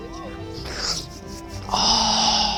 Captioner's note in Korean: 훌쩍